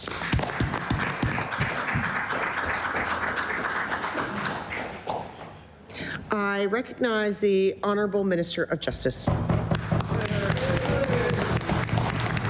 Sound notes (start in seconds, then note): 5.6 some Applause